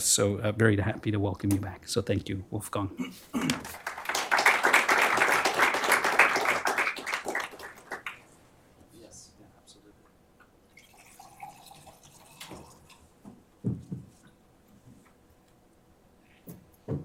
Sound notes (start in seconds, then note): 3.4 applause; 10.7 water pouring